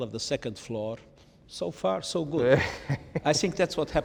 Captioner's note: Ian chuckles